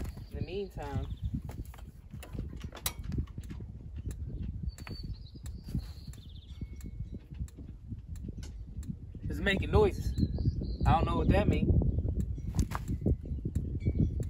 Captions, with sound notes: IN THE MEANTIME (TICKING SOUND) IT'S MAKING NOISES I DON'T KNOW WHAT THAT MEAN